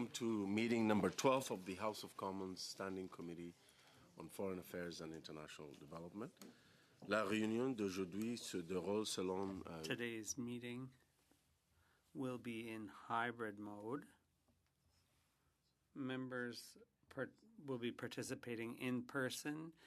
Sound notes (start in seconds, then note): 11.8 speaking French